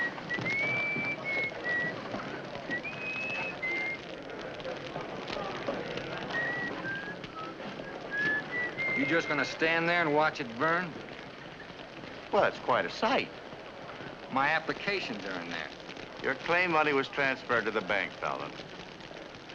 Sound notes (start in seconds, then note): 4.3 fire crackling